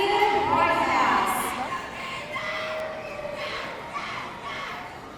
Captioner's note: audience cheering